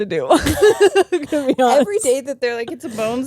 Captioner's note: both laughing